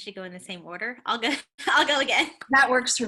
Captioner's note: laughter